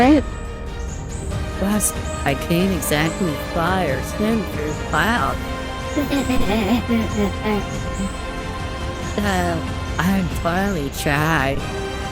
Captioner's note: laughs